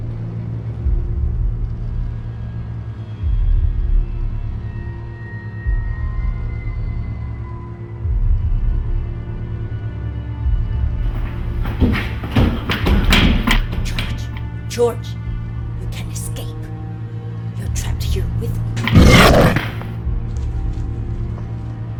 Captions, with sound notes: (suspenseful music) (feet thudding) - George, George, you can't escape. You're trapped here with me. (growling)